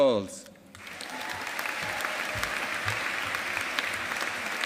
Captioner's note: audience applauding